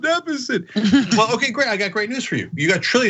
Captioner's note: laugh